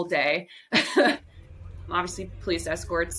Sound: laughter

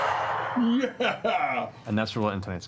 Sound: sighs of relief; cheers

